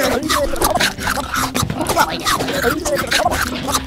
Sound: rapid devouring

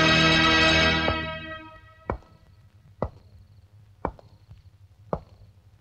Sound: footsteps

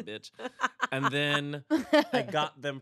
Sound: laughs

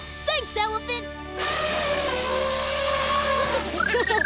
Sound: snorting; laughing

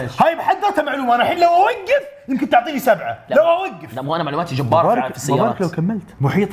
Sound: none

